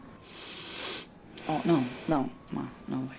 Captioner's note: sniffing